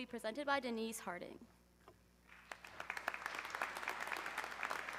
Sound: audience clapping

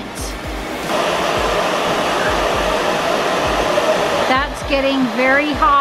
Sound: flames whistling

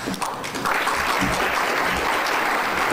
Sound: clapping

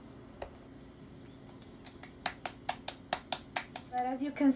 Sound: claps dough to form another tortilla

